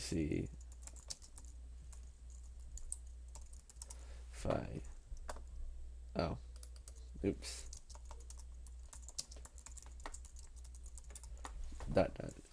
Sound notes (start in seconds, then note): 0.6 typing; 7.6 typing